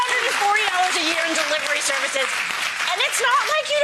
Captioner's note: audience claps